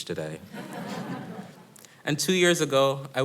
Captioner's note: audience laughing